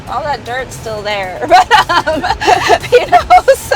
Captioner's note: laughing loudly